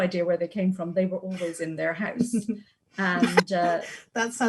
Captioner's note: laughs